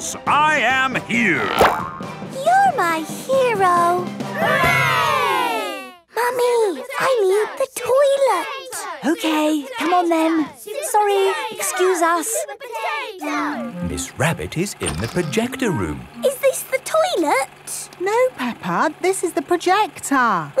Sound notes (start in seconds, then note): 11.7 children chanting